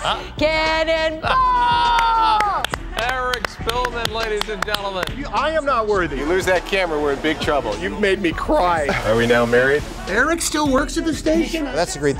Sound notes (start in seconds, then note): 0.0 screaming; 0.2 laughing; 1.9 reporters applauding